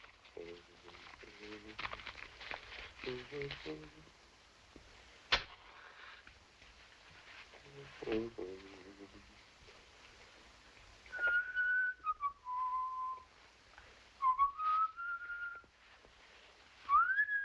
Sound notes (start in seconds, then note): 0.3 humming; 5.2 match strikes; 11.0 whistling